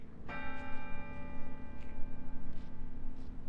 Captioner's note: bell chimes